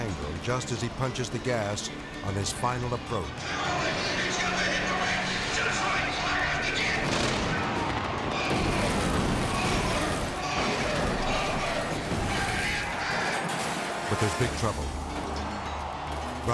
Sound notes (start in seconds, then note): 7.0 charges explode; 9.4 car banging; 11.4 car banging